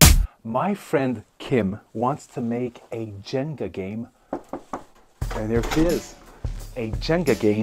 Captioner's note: knock at door